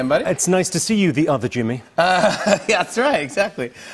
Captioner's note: laughter